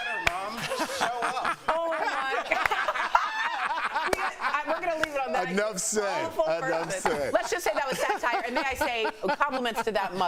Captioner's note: laughter